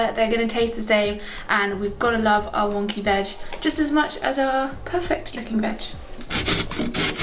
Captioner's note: grating